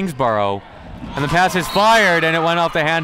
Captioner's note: referee blows whistle